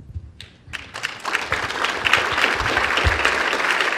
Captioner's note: applause